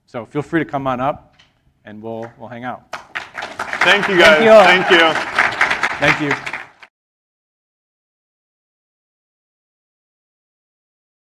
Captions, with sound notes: So feel free to come on up and we'll hang out. (audience applauding) - Thank you guys, thank you. - Thank you. - Thank you.